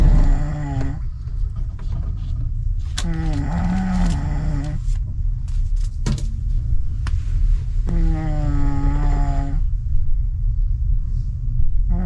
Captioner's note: snorring